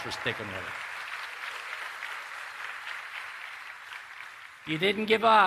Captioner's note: applause